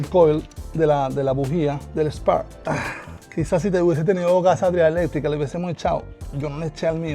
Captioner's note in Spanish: carraspeo